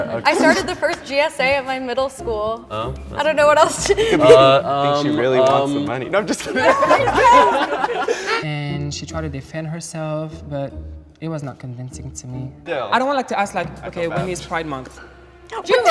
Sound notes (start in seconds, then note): 3.8 laughing; 7.1 group laughing